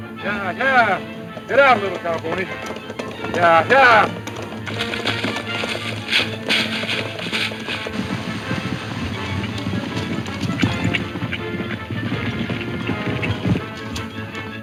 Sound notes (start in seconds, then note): 6.1 grass rustling; 8.4 hooves pounding